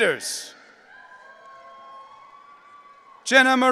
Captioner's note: audience cheering